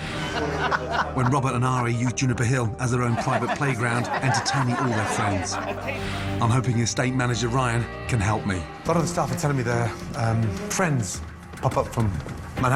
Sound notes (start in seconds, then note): 0.2 laughing; 2.9 all laughing